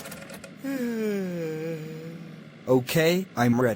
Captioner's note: yawn